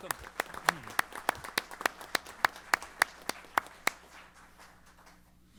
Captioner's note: applause